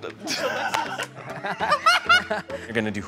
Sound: laughing; laughs

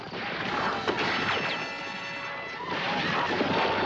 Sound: gunshot

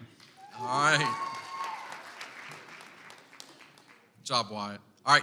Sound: audience applauds

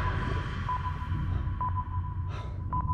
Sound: sonar beeping decreases

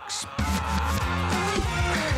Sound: yelling; energetic outro music

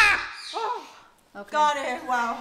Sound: bird caws louder

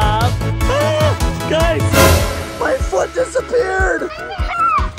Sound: shrieks

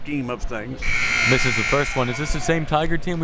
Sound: buzzer

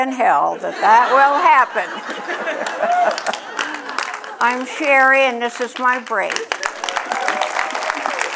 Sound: applause

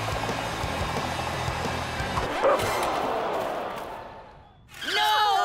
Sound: crowd gasping; Lily barking

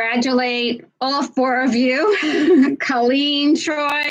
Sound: giggling

